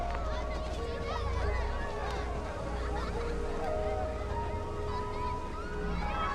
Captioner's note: children chattering and laughing